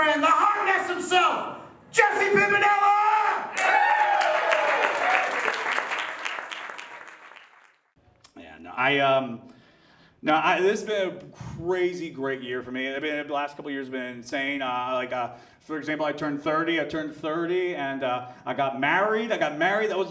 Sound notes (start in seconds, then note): 3.4 audience cheers and applauds